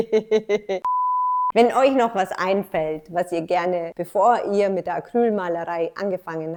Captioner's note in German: lacht